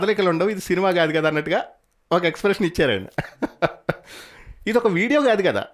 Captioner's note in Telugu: నవ్వు